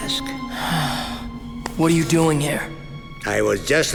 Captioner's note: sighing